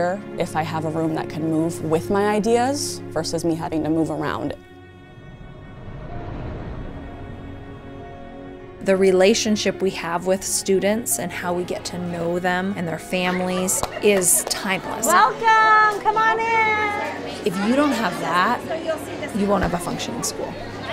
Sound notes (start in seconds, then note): 6.0 light orchestral music; 16.2 children's voices